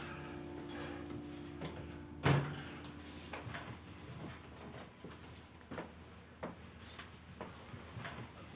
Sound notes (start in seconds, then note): 2.2 door thuds